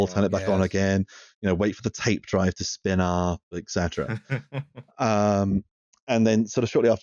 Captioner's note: laughs